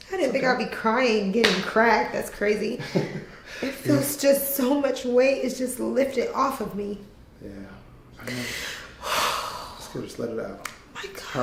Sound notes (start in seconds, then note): 8.2 sighs